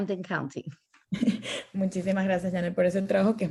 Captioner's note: laughter